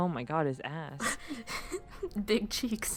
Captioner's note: laughing